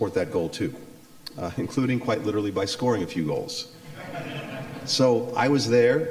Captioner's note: laughter